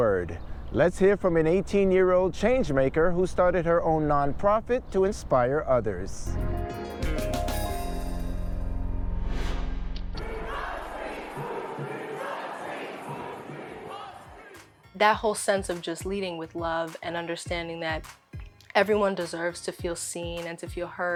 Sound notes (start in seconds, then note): 10.1 people cheering